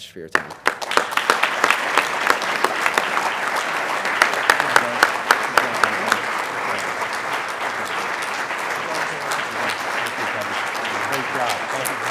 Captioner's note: applause